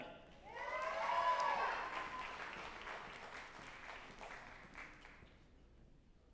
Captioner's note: group applauding and cheering